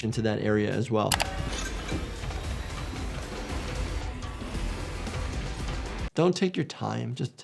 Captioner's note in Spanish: música rock; ruido metálico